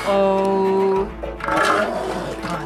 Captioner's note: seal roars